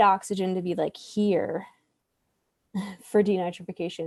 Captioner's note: laughs